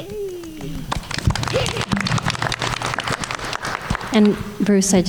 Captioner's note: everyone applauding